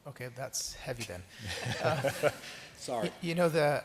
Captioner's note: chuckling